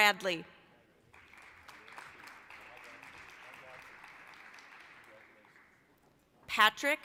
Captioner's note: applause